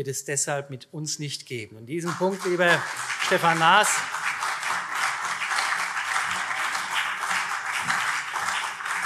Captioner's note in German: Beifall CDU und vereinzelt SPD